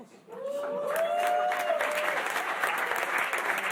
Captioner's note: applause